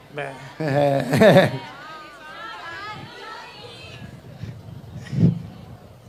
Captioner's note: crowd